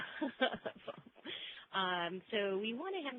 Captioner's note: laughs